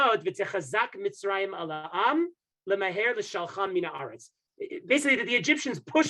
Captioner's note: speaking Hebrew